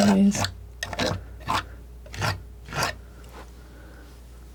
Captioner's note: scraping